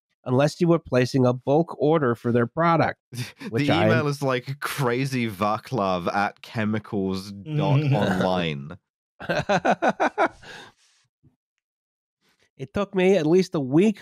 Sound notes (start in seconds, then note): 9.2 laughter; 10.2 laughs